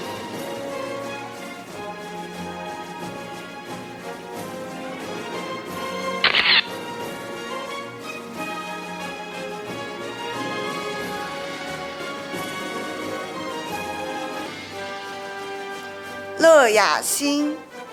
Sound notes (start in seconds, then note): 0.2 orchestral music; 6.3 camera shatters; 7.2 orchestral music